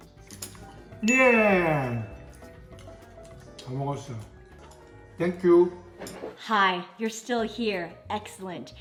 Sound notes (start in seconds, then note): 1.8 speaks Korean